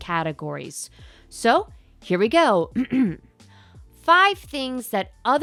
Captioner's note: grhm grhm